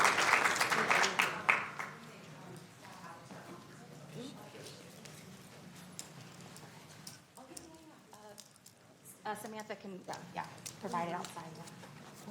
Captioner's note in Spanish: aplausos